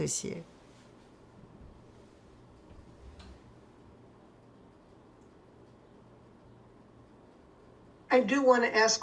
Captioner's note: pauses 8 seconds